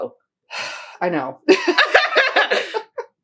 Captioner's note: sigh